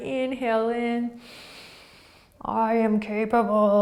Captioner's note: inhaling